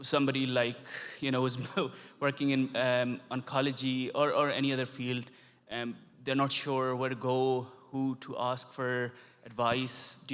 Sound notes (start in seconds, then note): 1.7 chuckles